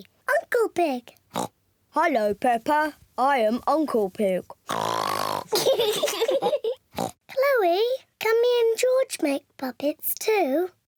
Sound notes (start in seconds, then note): 1.3 oinks; 2.0 in deep voice; 4.7 oinks loudly; 5.4 both giggle; 6.9 oinks